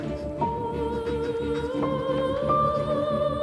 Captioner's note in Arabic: صوت كتابة القلم